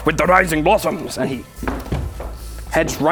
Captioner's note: stompy stomps